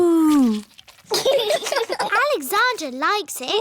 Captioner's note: laughter